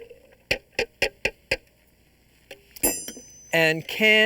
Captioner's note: clanking